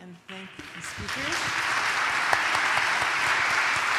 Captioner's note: applause